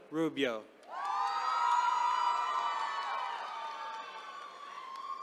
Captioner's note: attendees cheering